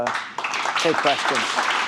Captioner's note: applause